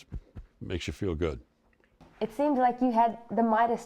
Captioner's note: voiceover